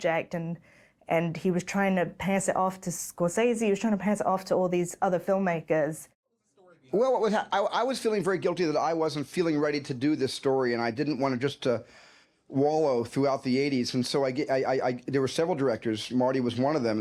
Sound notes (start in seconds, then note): none